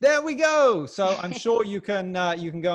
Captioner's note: chuckles